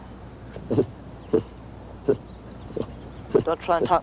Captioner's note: baboon chattering